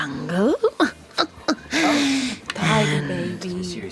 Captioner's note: snickers